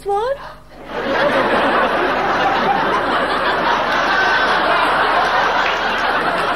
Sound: audience laughing

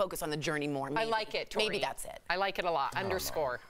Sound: laughter

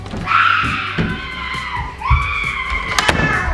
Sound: distant yelling

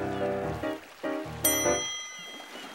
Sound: dinging

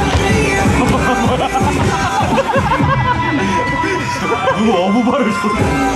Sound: A laugh coming from somewhere

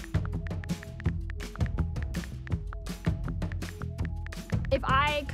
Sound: phone keyboard clicking

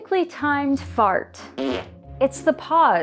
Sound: perfectly timed fart

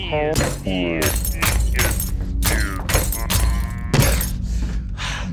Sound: heavy thudding; glass crackling; distorted noises

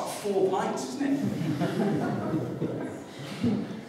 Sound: laughter

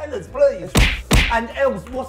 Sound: hitting noise

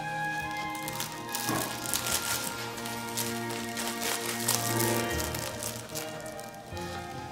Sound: toy crackling

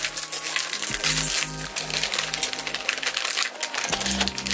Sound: rustling

